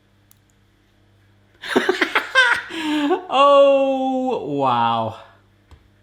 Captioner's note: laughing